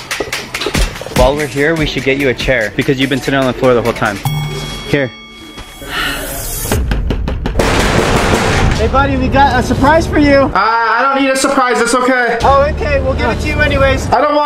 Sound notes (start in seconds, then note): 0.3 upbeat dramatic music; 6.7 door bangs